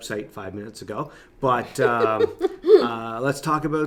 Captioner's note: laughing